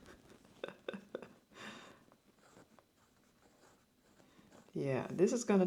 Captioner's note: laughs